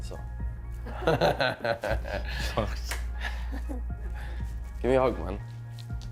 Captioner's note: laughs